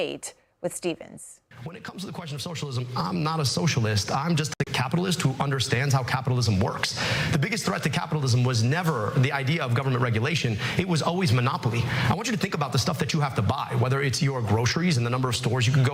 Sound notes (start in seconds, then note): none